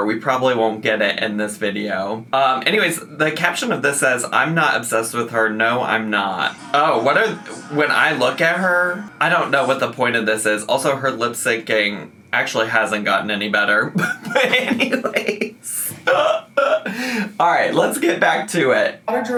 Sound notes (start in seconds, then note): 6.8 pop music; 13.9 laughing